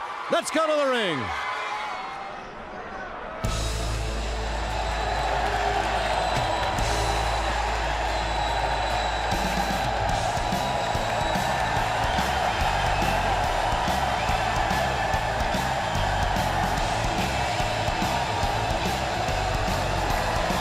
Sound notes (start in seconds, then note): 0.3 crowd cheering; 3.9 bell ringing; 4.8 crowd cheering